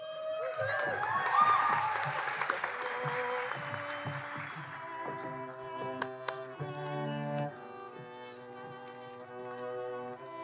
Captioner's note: applause and cheers